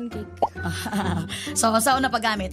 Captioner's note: chuckles